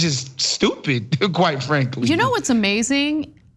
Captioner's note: laugh